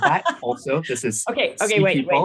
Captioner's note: laughs